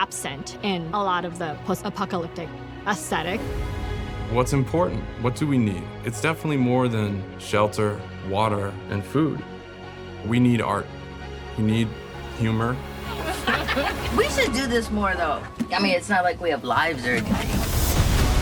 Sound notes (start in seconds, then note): 13.0 laughing